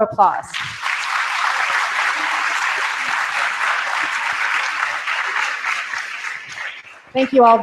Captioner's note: applause